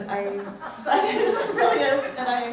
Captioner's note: laughs